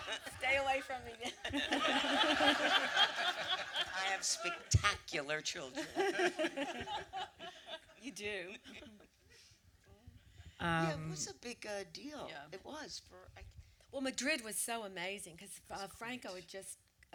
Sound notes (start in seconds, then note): 0.0 audience laughter; 1.3 audience laughter; 7.1 laughter